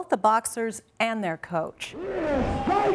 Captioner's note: cheering